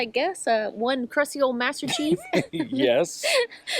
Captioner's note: laughter